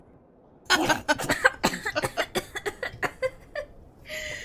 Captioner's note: James and Peter burst into laughter